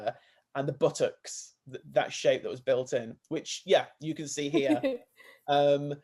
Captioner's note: laughs